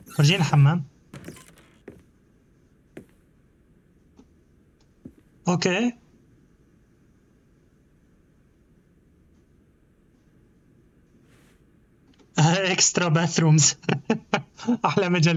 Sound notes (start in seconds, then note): 0.0 door creaks; 2.8 typing